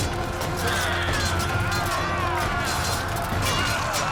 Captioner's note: grunting